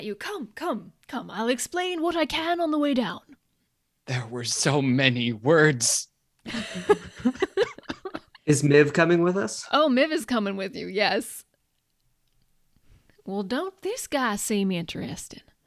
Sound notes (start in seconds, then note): 6.5 cast laughs